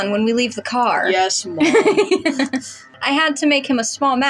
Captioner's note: laugh